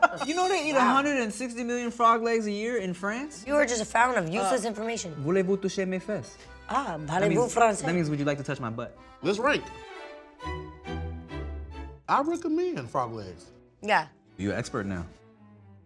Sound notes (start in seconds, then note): 5.1 speaking foreign language